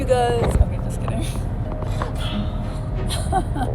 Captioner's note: laughs